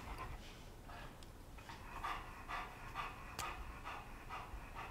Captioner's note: dog panting